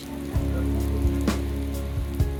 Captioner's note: heavy rain